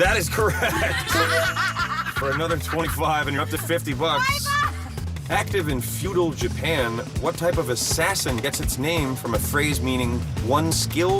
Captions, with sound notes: IN VITRO FERTILIZATION. [ Laughing ] THAT IS CORRECT... [ LAUGHTER ] ...FOR ANOTHER $25, AND YOU'RE UP TO 50 BUCKS. ACTIVE IN FEUDAL JAPAN, WHAT TYPE OF ASSASSIN GETS ITS NAME